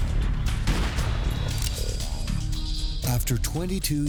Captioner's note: gunshot booming